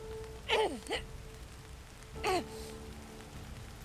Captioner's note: Mackenzie groans